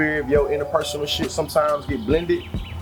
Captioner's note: birds Chirping